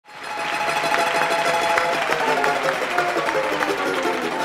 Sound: audience clapping

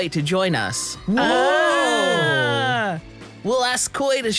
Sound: cheers

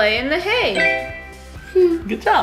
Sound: phone beeping

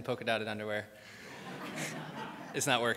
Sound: crowd laughs; laughs

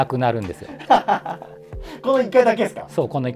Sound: laughing

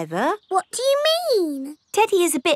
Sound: in normal voice

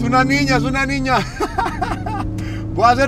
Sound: riendo

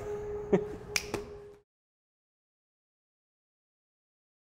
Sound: snapping fingers

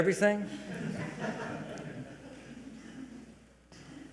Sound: audience chuckles

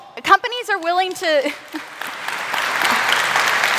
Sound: applause

